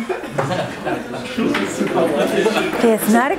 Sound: audience laugh

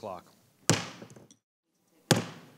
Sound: gavel bangs

